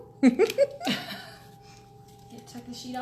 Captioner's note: laughing